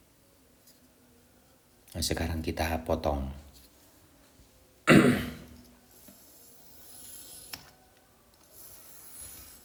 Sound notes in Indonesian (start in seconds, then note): 4.8 batuk; 4.8 berdehem